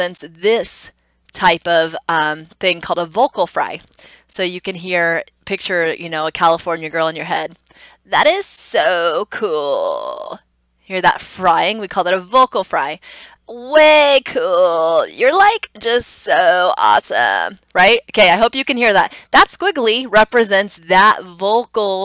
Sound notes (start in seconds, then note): 7.4 doing a Valley Girl imitation; 10.0 normal voice; 12.8 doing a Valley Girl imitation; 16.9 normal voice